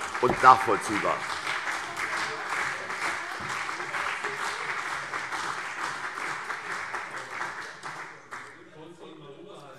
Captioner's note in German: Beifall CDU und BÜNDNIS 90/DIE GRÜNEN - Zurufe SPD und Freie Demokraten